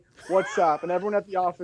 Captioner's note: judge laughs